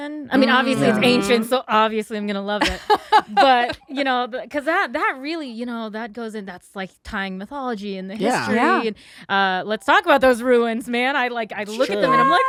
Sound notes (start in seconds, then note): 2.6 laughs